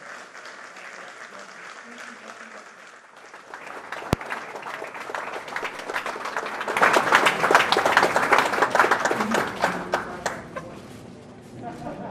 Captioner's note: applause